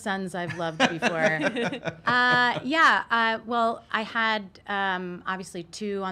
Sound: laughs

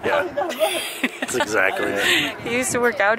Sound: laughs

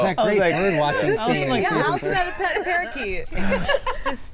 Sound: all chattering

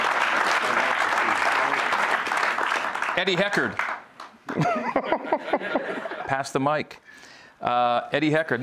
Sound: cheers and applause

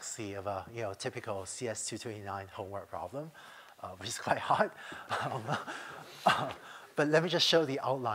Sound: laughter

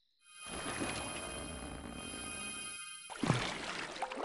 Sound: sparkly ringing

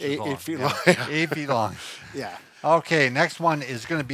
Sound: laughs

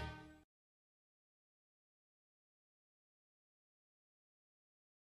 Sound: silence

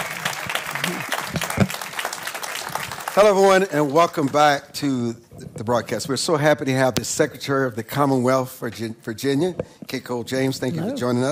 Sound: applause

